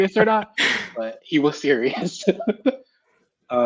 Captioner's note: laughs